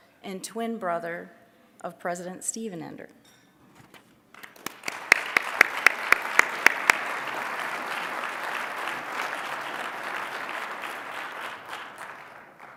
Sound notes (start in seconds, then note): 4.3 applause